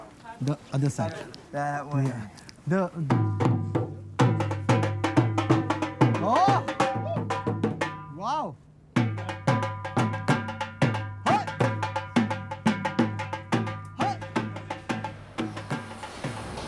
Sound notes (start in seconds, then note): 11.2 rhythmic cheering